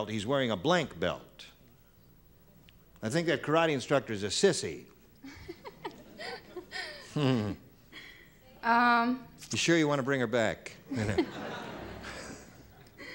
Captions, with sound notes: he's wearing a blank belt. I think that karate instructor is a sissy. - (laughs) - You sure you wanna bring her back? (laughter)